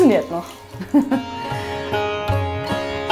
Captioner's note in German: Sie lacht